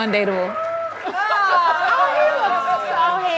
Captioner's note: audience cheers